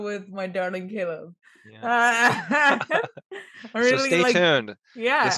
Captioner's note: both laugh